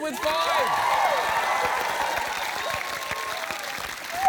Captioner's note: cheering, applause